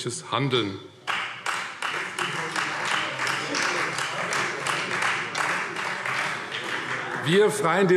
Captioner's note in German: Beifall Freie Demokraten